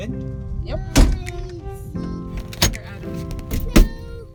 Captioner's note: door slam